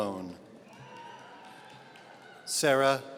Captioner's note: audience cheering